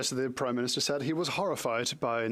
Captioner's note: speaking French